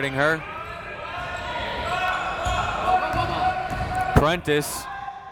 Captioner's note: crowd members shouting